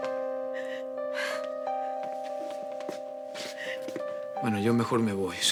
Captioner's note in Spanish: Sollozos